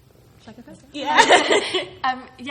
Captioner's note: laughing